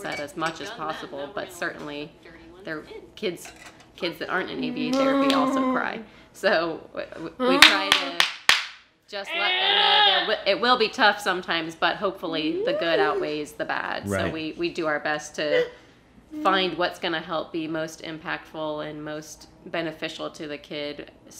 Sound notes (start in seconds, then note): 7.5 clapping and growling